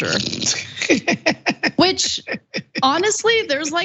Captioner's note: laugh